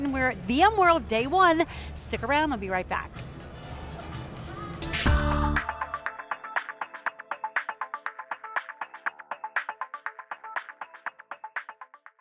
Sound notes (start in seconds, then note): 4.8 electronic tones